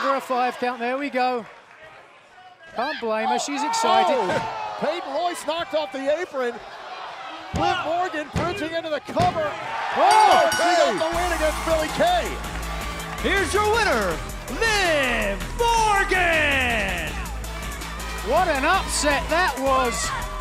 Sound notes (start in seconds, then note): 10.0 bell ringing